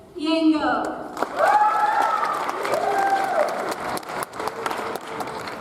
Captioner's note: audience applauds